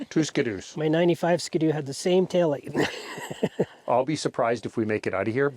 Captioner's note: laughs